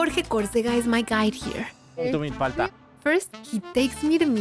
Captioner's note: speaking Spanish